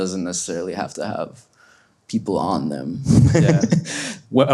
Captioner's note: laughs